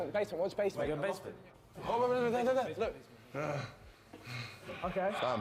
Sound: panting

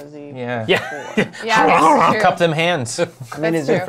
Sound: scarfing food noises

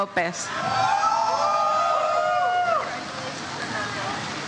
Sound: audience cheers

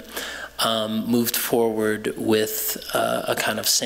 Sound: none

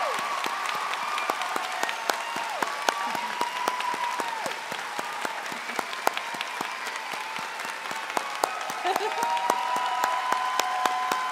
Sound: cheering and applause

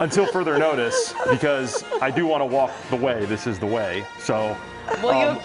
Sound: laughter

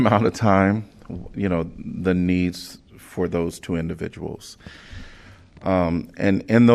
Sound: laughter

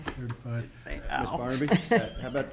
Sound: laughing

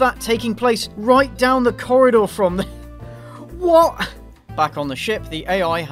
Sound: laugh

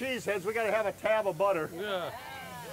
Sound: crowd cheers

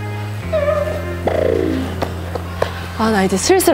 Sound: hurriedly

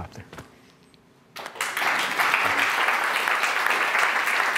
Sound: applause

